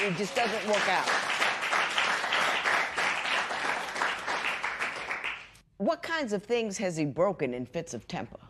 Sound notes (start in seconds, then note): 1.7 applause